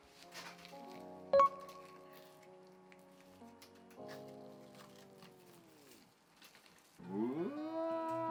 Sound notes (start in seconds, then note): 1.1 ripping close to mic